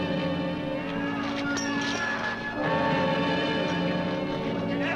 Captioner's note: all shouting